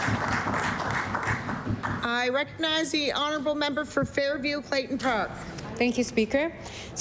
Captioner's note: applause